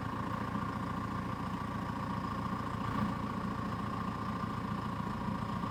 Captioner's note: truck whirring continues